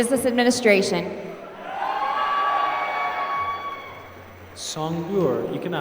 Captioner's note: applause